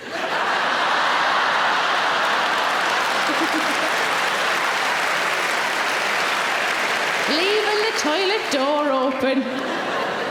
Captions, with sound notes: (audience laughing) (audience applauding) - Leaving the toilet door open.